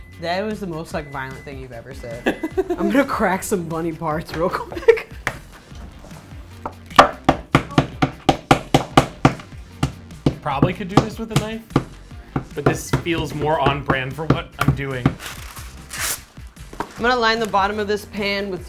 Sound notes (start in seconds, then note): 7.1 spoon pounding on wood; 15.2 paper tearing